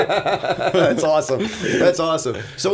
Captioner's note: laughter